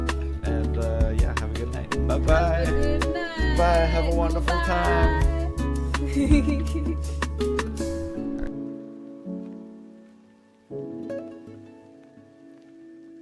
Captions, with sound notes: and yeah, have a good night, bye-bye. - Good night. - Bye, have a wonderful time. (laughing) All right.